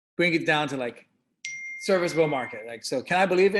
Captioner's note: notification bell dings